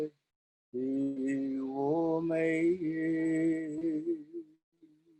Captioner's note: chanting